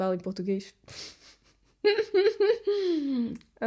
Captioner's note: laughs